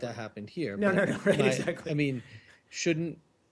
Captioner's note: laughter